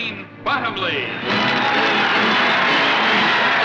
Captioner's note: applause